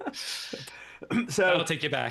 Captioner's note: laughing